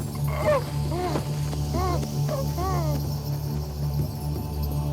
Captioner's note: Adam is moaning